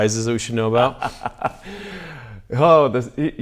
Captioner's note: laughs